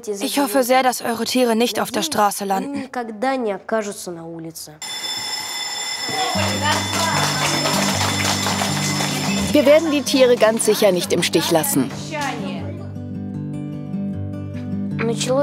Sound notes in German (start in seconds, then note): 4.8 Schulglocke; 6.1 Applaus, sanfte Musik; 12.4 Sanfte Musik